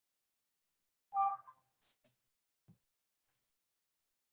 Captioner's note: computer chimes